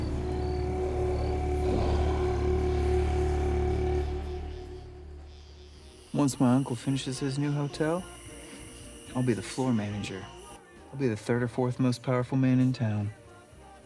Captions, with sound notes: (Loki sighs deeply) (uneasy music) (insects buzz) - Once my uncle finishes his new hotel, I'll be the floor manager. I'll be the third or fourth most powerful man in town.